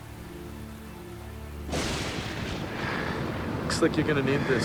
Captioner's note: thunder rumbles